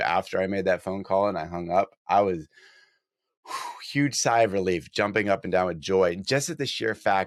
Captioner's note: sigh